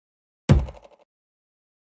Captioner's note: thud